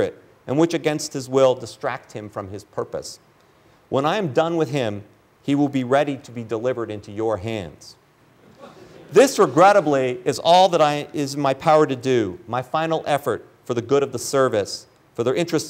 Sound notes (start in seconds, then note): 8.4 laughter